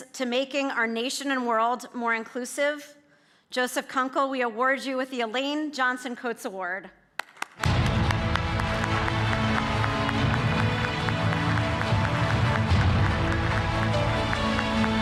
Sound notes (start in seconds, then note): 7.2 audience clapping; 7.6 dramatic music